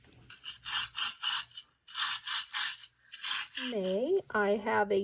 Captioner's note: hedgehogs scuttling